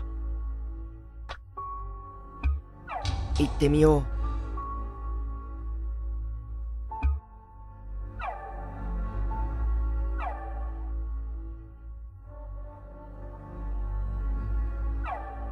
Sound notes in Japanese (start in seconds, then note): 2.8 扉の開閉音：ガッゴン